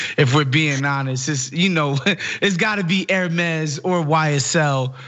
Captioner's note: laugh